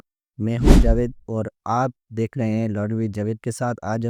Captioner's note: hindi/Urdu